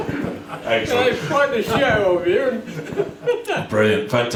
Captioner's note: chuckles